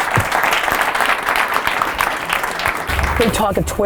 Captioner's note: applause